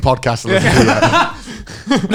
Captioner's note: laughing